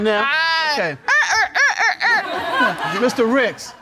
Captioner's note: vocalizes mockingly